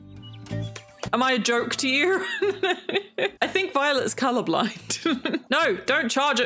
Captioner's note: laughs